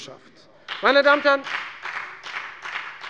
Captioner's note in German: Beifall bei der FDP